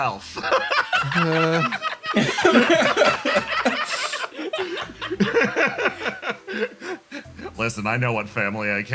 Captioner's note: laughs